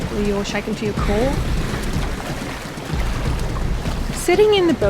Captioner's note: sound of water rushing past